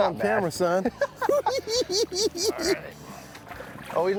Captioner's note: laughing